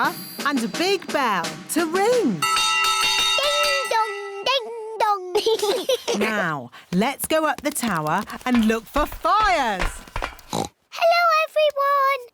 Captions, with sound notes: and a big bell to ring. -(BELL RINGS) -Ding! Dong! Ding! Dong! (LAUGHTER) Now, let's go up the tower and look for fires. (OINKS) Hello, everyone!